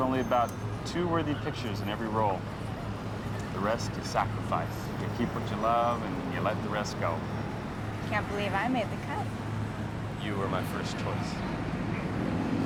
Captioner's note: machinery Whirring